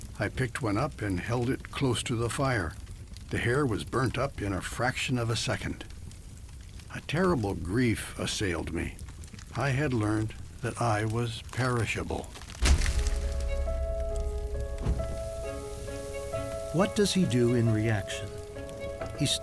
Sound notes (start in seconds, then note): 12.5 wood thudding; 12.6 solemn music